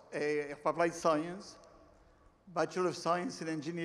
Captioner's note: none